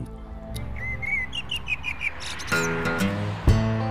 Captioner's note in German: Vogelzwitschern; Lockere Musik